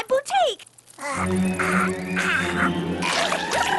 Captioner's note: gagging